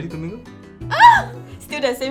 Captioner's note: screams erotically